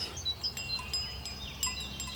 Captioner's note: cowbells jingle